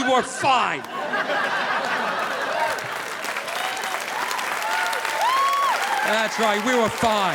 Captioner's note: audience laughing; audience applauding